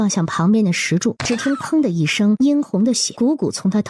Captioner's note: thump